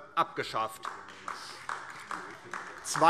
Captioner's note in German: Beifall DIE LINKE